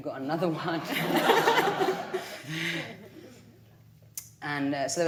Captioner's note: audience laughing